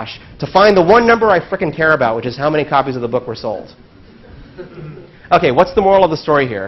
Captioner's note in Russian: Смех